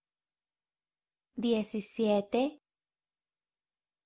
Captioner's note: in Spanish